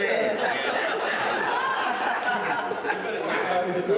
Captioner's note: all laughing